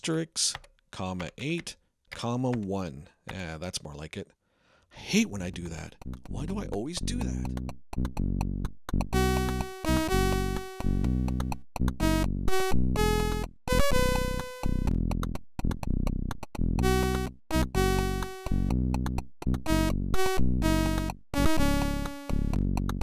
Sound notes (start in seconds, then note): 7.5 voice fades